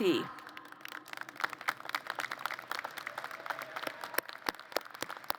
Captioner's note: applause